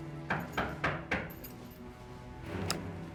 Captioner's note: knocking at door